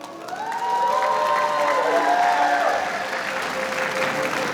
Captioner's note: audience cheering